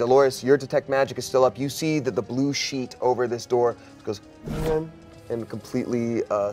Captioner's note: whirs